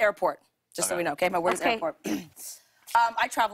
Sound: clears throat

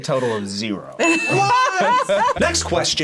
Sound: both laugh

